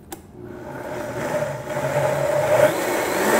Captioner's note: blender sounds